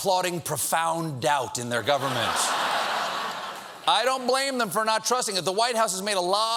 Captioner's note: laughter